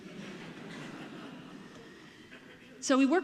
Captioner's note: audience laughing